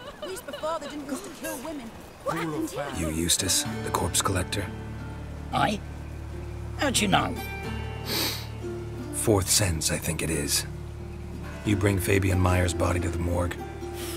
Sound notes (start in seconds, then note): 8.0 sniff